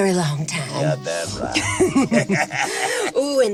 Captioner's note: chuckles